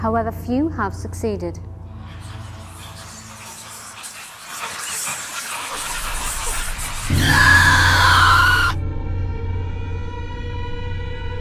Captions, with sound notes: however few have succeeded. (eerie whispering) (shrieking)